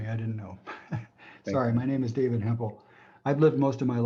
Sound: laughter

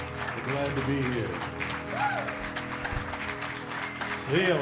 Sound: cheers and applause

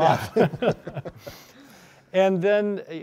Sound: both laughing

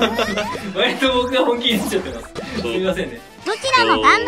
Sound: laugh

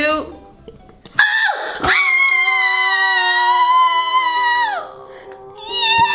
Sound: screaming

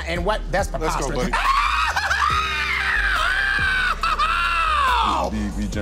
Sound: screams

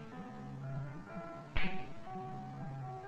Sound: smack

